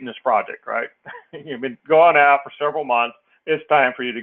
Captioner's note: laugh